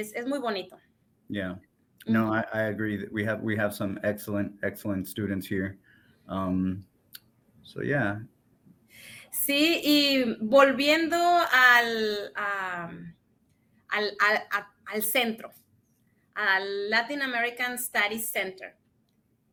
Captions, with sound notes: They share what they learn in class. Es muy bonito. - Yeah. No, I agree that we have we have some excellent, excellent students here. So, yeah... - (speaks in Spanish) Latin American Studies Center.